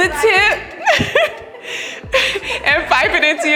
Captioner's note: laughing